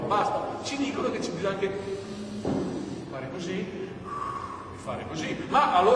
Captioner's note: inhale and exhale